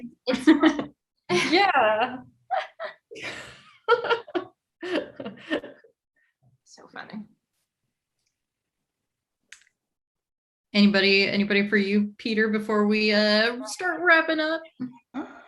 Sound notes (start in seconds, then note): 2.5 laughing